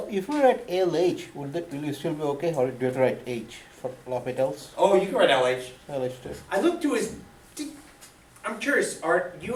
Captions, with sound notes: - [Voiceover] Now, if we're write LH, would we still be okay, or do yo you have to write H for L'Hosptial? - Oh, you can write LH. - [Voiceover] I like this. - I look to. I'm curious, Art.